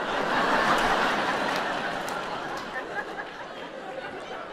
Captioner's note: audience laughs